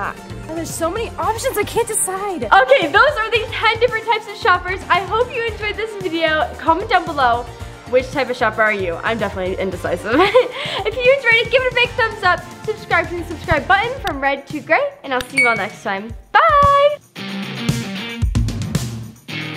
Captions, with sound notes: There's so many options, I can't decide! Okay, those were the 10 different types of shoppers. I hope you enjoyed this video, comment down below, which type of shopper are you? I'm definitely indecisive. (laughs) If you enjoyed it, give it a big thumbs-up, subscribe to turn the subscribe button from red to gray, and I'll see you all next time. Bye!